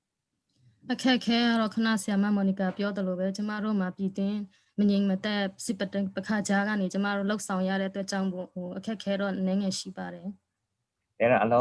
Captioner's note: speaking in another language/ Interpretation